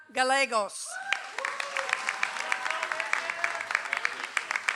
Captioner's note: audience applauds